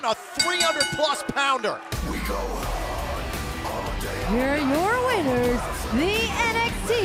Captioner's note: bell ringing